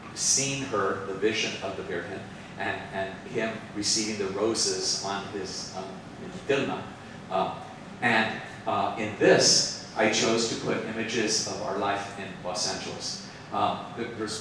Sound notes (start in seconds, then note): 4.8 speaks Spanish